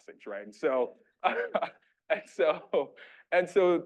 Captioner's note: laughing